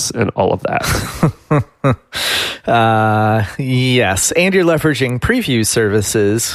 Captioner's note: laughs